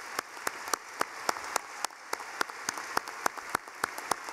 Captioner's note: clapping